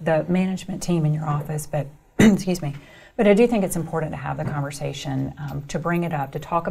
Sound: coughs

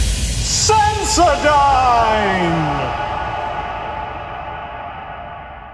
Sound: echoing

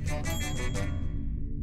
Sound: ding

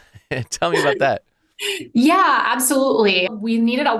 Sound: laughs

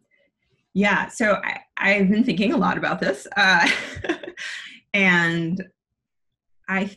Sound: chuckles

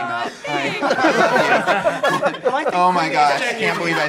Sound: laughing

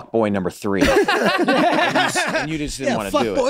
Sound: all laughing

